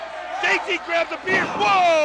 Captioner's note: crowd chatter